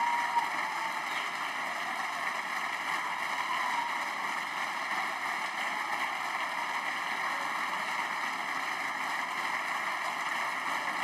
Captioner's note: applause